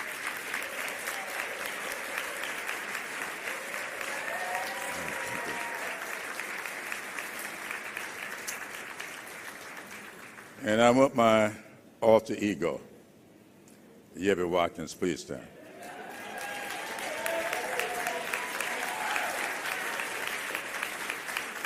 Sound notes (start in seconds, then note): 2.0 applause; 11.7 cheering; 13.6 applause